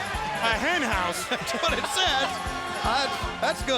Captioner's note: laugh